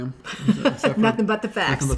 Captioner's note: laughs